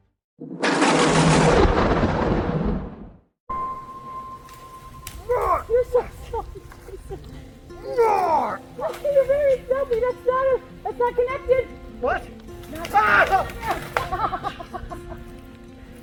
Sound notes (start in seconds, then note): 3.4 gentle music; 5.3 groaning; 13.3 groans